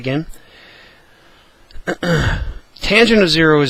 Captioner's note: cough